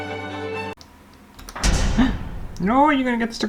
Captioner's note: classical Music; thud!